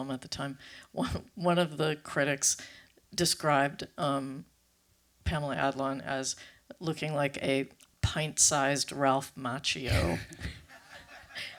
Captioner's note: laughter